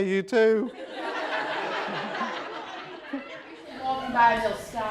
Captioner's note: laughter